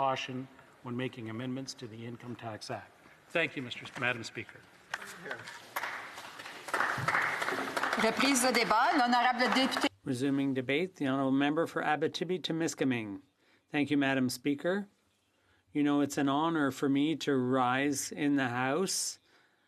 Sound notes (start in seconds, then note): 8.1 some Applause; 12.5 speaking French